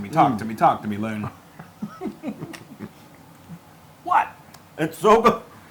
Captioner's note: laugh